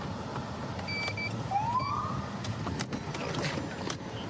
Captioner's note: siren chirps